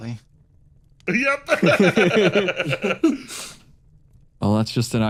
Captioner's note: laughs